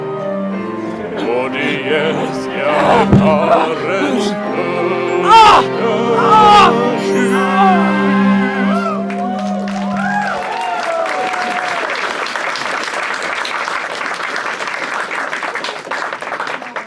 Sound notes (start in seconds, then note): 2.9 LeChuck grunts and falls; 9.0 audience claps and cheers